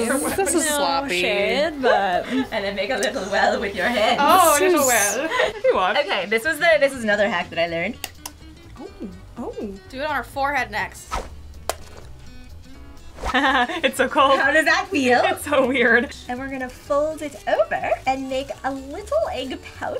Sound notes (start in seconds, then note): 8.0 eggs cracking; 11.6 egg cracks; 13.3 laughs